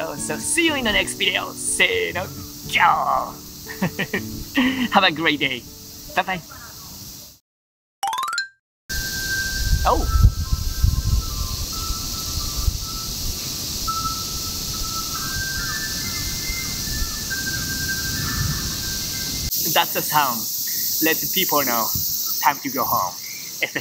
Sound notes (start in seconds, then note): 3.1 lion roar in Japanese; 9.1 chimes play over loudspeakers